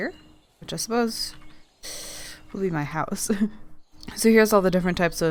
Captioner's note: laughs